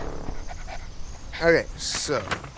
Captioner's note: dog panting